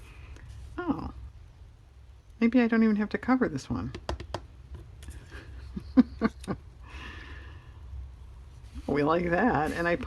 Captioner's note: laughs